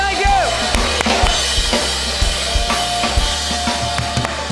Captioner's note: cheers and applause